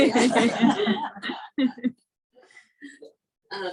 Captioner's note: laughing